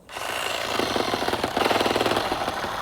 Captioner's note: grinding